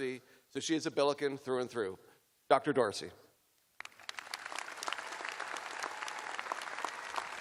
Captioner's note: applause